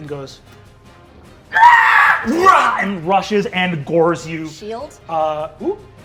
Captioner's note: screeches